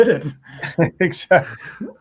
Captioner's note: laughing